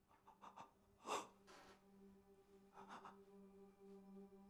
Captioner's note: Malcolm gasps